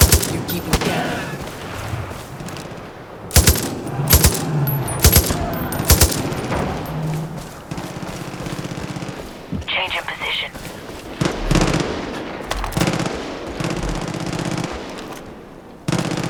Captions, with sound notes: You keep him down. (gunshots) Change in position.